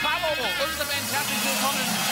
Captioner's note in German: Jubel